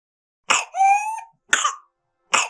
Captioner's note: sound of whooping cough